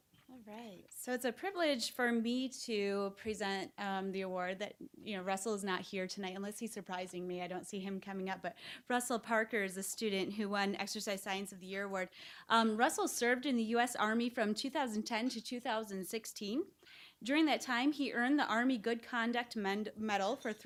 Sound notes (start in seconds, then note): none